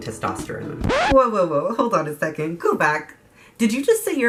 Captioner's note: record scratch